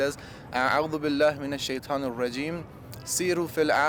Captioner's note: speaking Arabic